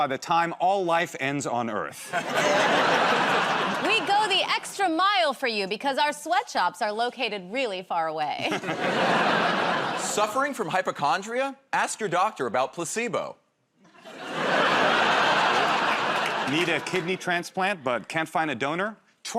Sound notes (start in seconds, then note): 13.8 laughter